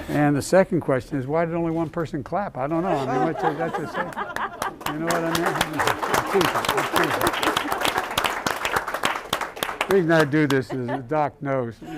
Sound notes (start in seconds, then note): 2.7 laughter; 6.5 applause